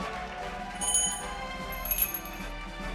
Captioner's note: cheers and applause; bells jingling